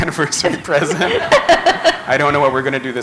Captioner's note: laughter